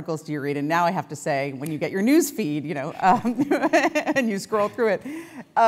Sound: laugh

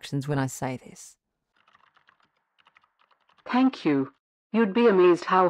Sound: background SFX: Keyboard typing

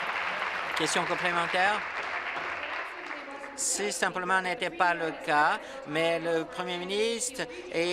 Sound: some Applause

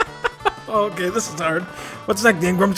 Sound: laughing; laughs

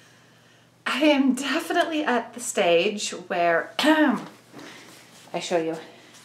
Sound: ahem

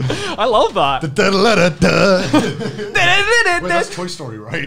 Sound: humming a tune

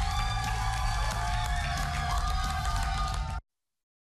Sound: cheers

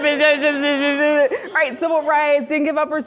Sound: speaking gibberish

